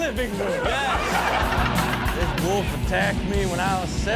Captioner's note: audience laughs